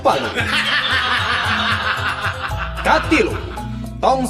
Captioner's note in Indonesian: tertawa